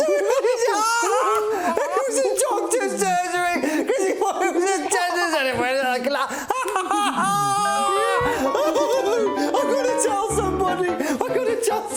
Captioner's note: breaks up with laughter